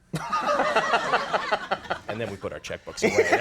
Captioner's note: Conan and audience laughing